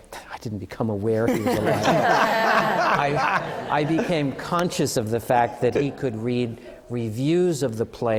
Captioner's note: laughter